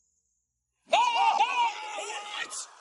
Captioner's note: screaming